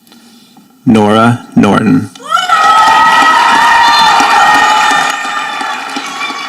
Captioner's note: audience applauding